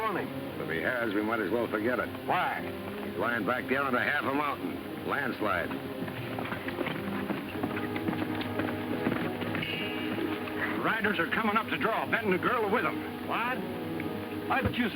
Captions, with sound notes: - Why? - He's lying back under half a mountain. Landslide. (hooves clopping) - Riders are coming up the draw. Benton and the girl are with 'em. - What? - But you said Benton was dead, are you crazy?